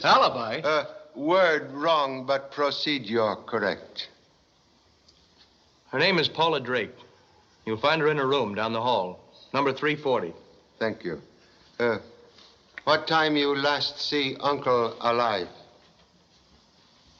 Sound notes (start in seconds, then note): none